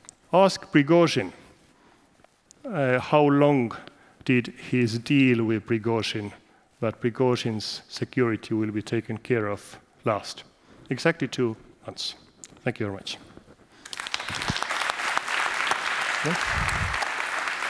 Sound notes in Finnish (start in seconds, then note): 13.8 Applause